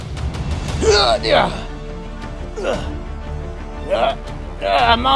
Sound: struggle Sounds

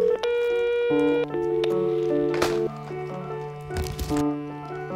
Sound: phone rings; answering machine beep

